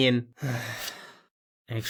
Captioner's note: sighs